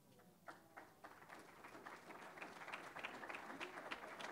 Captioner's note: audience applauding